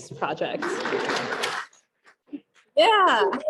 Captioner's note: applauding